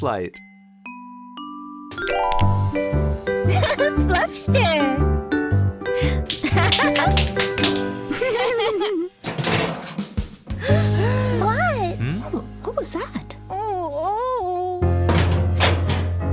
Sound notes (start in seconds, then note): 3.4 giggling; 6.2 clapping; 6.3 laughter; 9.2 trash can rattling; 10.6 children gasping; 11.9 groaning; 15.0 trash can rattling